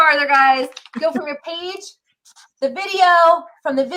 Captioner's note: laughs